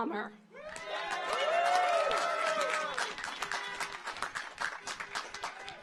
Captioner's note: car horns honking; audience cheers